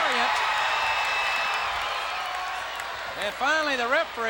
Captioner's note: crowd cheering